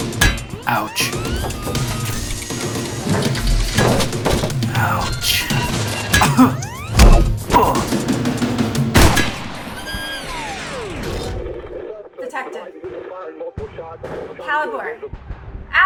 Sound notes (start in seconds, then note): 6.6 servos and thuds; 8.9 gunshot